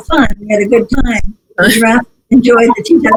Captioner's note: laughs